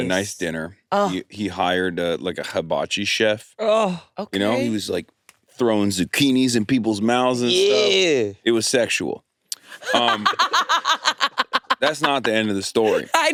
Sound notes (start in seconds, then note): 9.7 all laughing